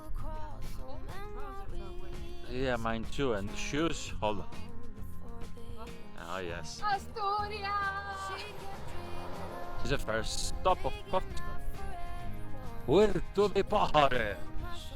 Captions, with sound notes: Yeah, mine too and shoes, hold on. Ah yes. Victoria This is the first stop of Portugal. (speaking foreign language)